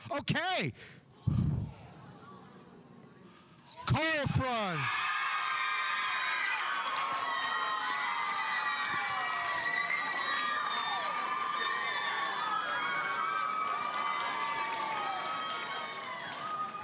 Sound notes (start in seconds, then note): 1.3 audience murmuring; 5.0 audience cheering; 7.5 audience applauding